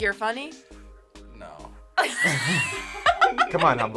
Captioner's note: group laughs